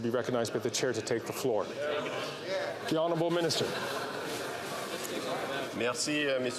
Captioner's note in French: voix de l'interprète